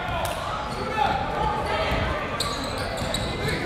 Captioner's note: none